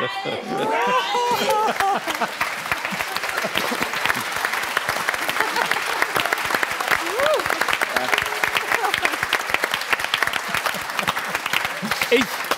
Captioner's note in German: Applaus